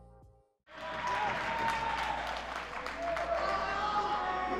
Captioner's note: crowd cheers